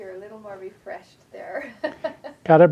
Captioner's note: laughs